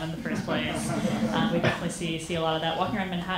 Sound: audience laughing

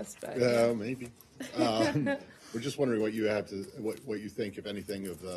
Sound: laughter

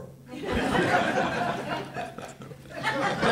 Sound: laughter

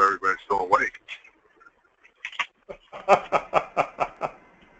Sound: laugh

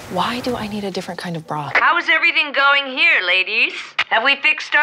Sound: Rosanna over mic

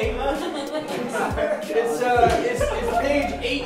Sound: laughing

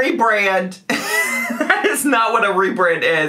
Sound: laughing

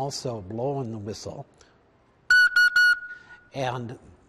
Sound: whistle blow

